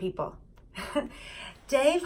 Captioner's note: chuckling